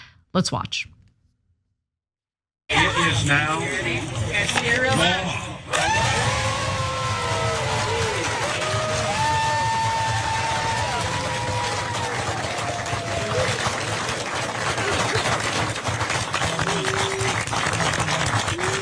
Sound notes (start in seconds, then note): 5.7 applause